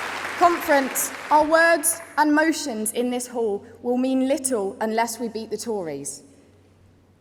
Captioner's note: applause